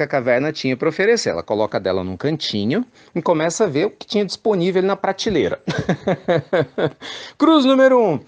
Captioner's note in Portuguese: Risos